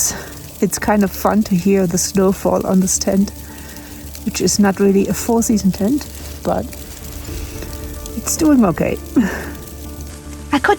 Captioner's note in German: Lacht